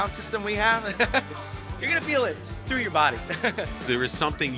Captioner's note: laughs